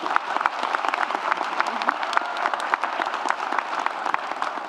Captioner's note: audience applauds